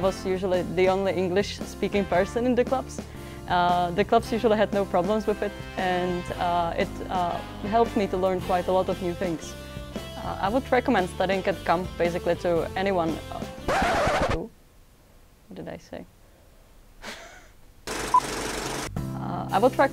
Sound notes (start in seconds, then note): 13.6 scrached record sound